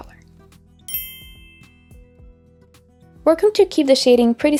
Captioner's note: dinging sound effect